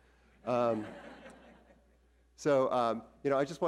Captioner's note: audience laughs